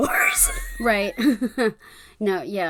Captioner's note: laughs